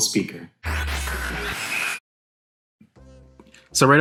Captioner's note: static